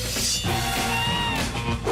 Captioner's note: screech